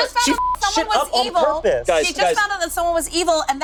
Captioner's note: beep